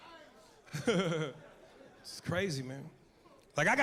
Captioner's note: laughs